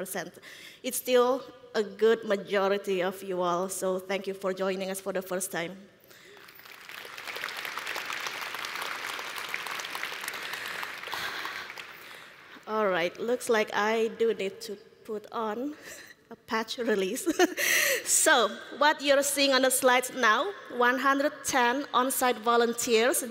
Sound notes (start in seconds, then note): 9.1 applause